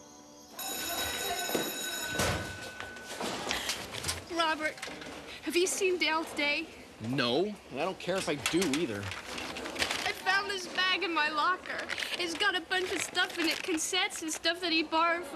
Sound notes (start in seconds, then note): 0.3 bell ringing